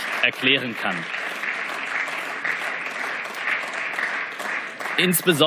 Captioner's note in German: Beifall